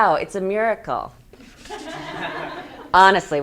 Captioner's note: laughs; students laughing